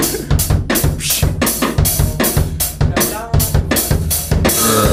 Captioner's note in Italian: burp